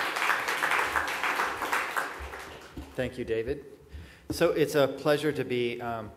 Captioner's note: applause